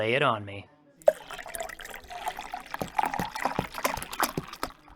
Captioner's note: drink making noises